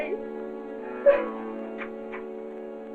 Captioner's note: sobbing